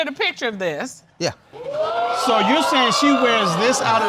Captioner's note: audience clamoring